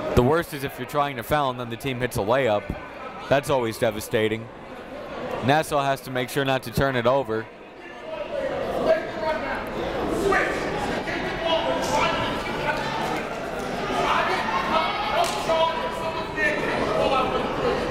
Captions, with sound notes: The worst is if you're trying to foul and then the team hits a layup. That's always devastating. Nassau has to make sure not to turn it over. (crowd talking) (coach yelling)